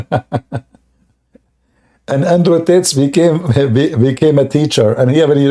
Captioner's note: Ketawa